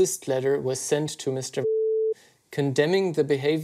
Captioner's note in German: Piepton